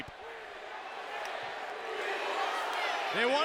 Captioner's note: audience cheering